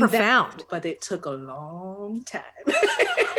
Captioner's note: laughs